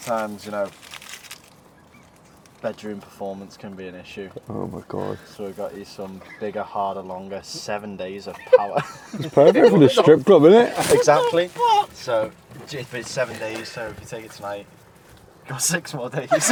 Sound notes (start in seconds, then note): 8.2 giggling